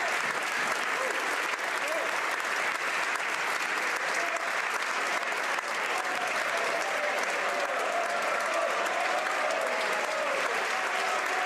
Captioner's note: applause